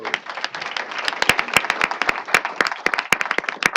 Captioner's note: applause